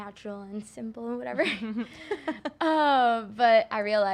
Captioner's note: interviewers chuckling